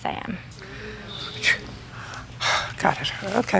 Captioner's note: sighs